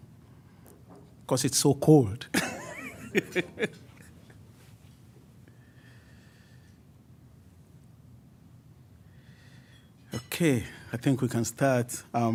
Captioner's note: laughs